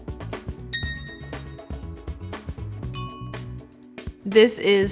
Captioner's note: upbeat music; phone dinging